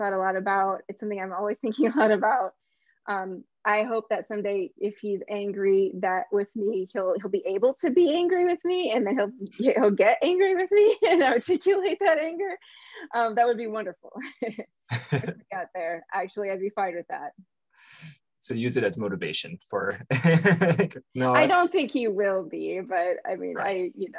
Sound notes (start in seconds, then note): 11.0 chuckles; 14.9 chuckles; 14.9 laughs; 19.9 laughs